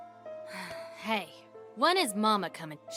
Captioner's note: sigh